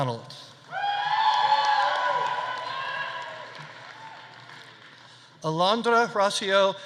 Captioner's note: audience cheering; audience applauding